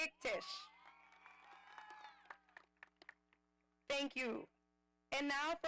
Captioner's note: audience applauding